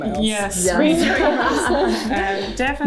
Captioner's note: laughter